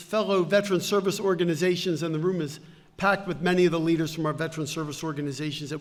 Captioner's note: none